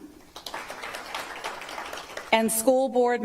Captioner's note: applause